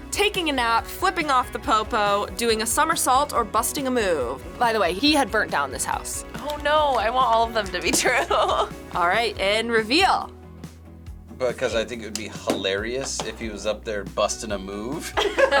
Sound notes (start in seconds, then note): 7.7 laughs; 15.1 laughs